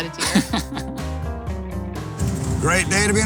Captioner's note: laughs